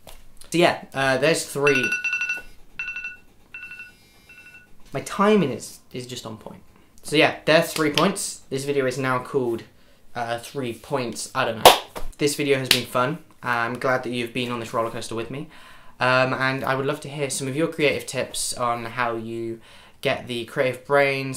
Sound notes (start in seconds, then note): 2.1 alarm goes off